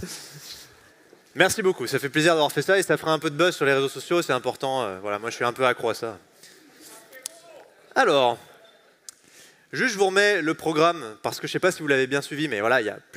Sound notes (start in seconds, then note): 7.6 indisctinct chatter